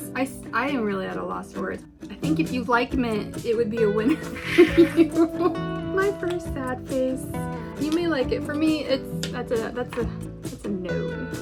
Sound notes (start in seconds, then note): 4.0 giggles